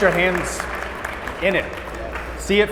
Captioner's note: audience applauding